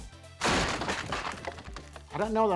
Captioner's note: wood crunching